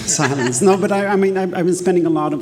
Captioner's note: attendees laughing